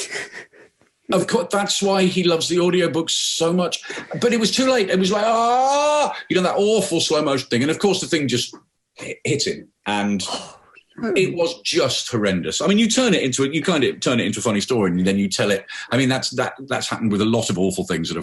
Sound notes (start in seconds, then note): 0.0 laughing; 5.3 screams angrily